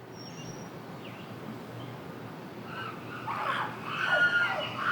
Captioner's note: nature Sounds